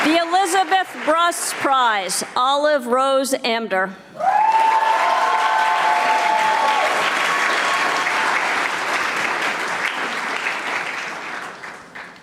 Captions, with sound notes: The Elizabeth Bruss Prize, Olive Rose Amdur. (audience applauding)